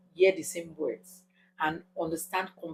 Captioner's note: paause